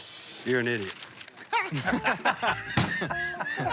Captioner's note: laughter